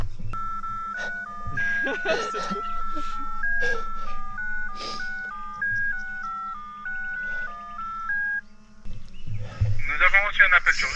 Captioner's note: cell phone ringing